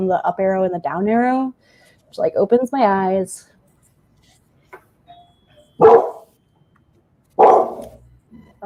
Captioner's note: dog barks